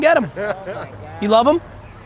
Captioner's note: laughing